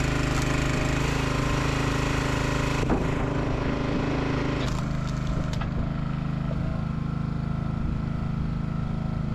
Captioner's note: motor rumbling